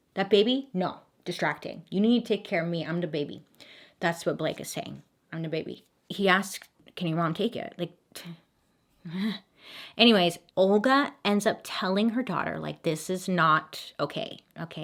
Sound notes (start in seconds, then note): 9.0 sighs